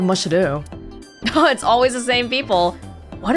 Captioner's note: chuckles